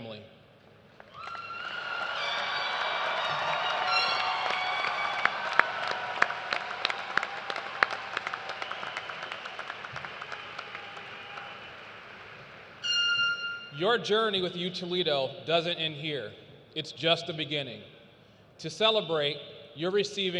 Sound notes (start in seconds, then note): 3.4 cheers and applause